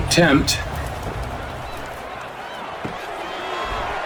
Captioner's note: crowd cheering